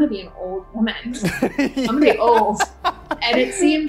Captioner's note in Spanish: risas